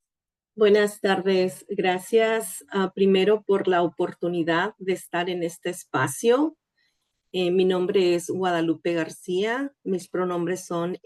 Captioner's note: speaking in Spanish